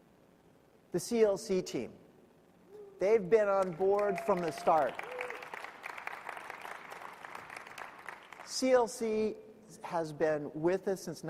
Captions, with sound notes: The CLC Team, they've been on board from the start. (audience clapping). CLC has been with us since 1992.